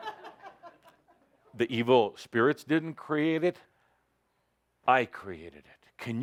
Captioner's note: laughter